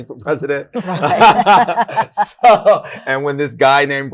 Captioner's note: laughter